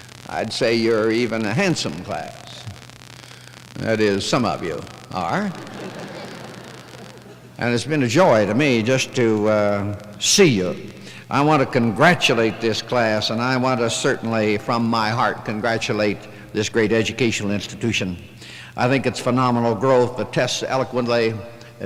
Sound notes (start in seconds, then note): 5.3 chuckling